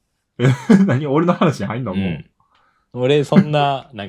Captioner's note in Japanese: 笑い